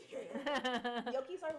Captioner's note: laughing